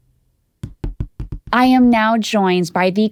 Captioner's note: fingers tapping